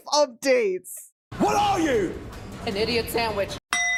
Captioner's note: screaming